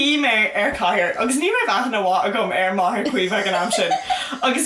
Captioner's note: laughs